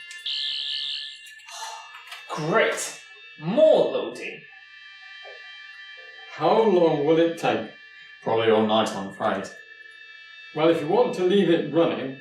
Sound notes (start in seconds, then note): 0.1 buzzing; 1.5 sighing